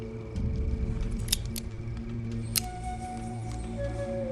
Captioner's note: clicking